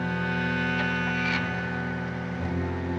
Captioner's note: car engine starts